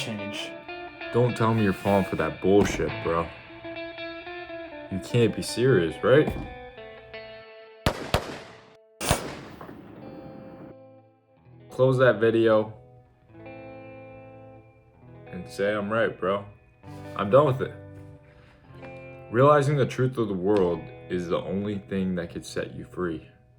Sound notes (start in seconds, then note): 7.8 the bullets ring out; 9.0 bang